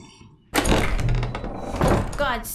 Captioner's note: door opening